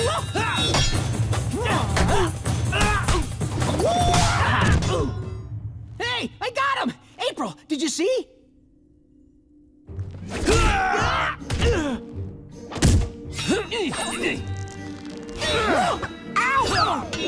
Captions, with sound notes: [grunting] Hey, I got him. April, did you see? [grunting] [grunting] Ow!